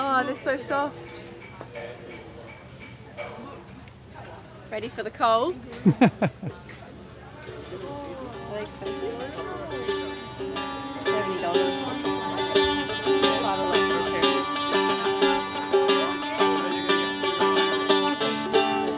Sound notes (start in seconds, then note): 5.8 chuckles; 9.1 upbeat stringed music